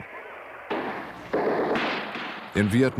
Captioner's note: gunfire